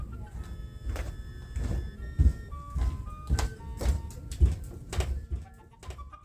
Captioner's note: footsteps